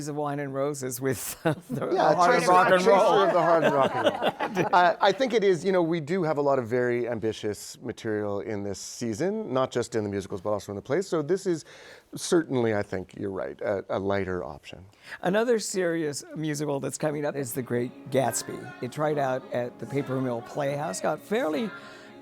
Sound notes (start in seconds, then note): 5.7 laughter